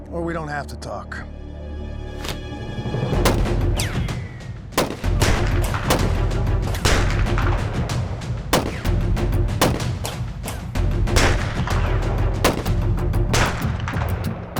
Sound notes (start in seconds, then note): 2.9 gunfire